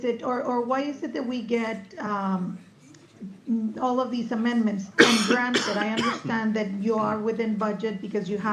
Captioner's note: cough